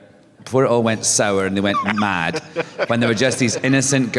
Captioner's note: laughter